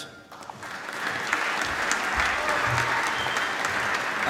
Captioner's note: applause